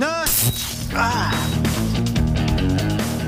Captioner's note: moans